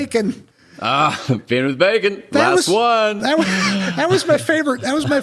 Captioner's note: laughs